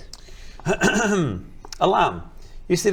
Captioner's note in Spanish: se aclara la garganta